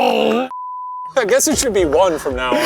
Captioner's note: both shouting; screen beeping